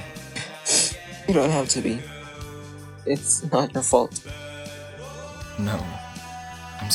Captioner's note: sniffles